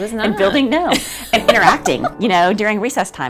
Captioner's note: laughs